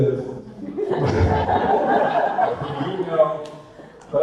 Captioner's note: audience laughter